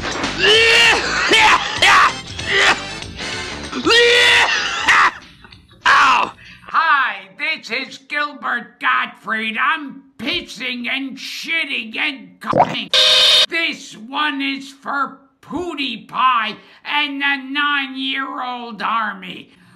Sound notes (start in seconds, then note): 0.3 coughs; 3.8 vomits; 12.9 Fnaf jumpscare